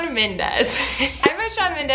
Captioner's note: giggles